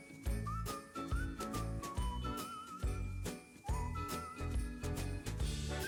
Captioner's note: upbeat music; rhythmic whistling